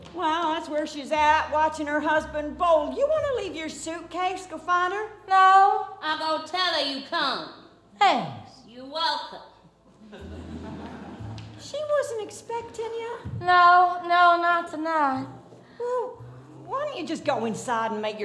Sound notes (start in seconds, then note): 10.0 audience laughs